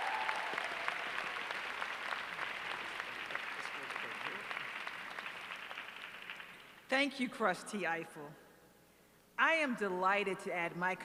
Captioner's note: applause